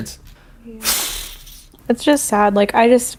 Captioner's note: sighs